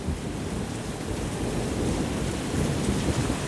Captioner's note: heavy rain and thunder